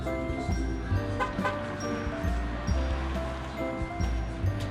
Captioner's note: car horn honks